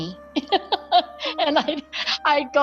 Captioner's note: laughing